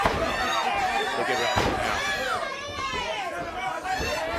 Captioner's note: crowd chatter